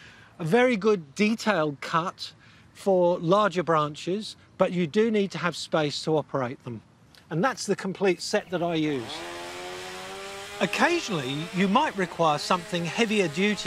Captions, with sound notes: a very good detailed cut for larger branches, but you do need to have space to operate them. And that's the complete set that I use. (CHAINSAW DRONES) Occasionally, you might require something heavier-duty,